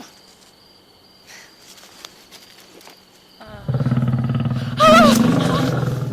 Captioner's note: growl; scream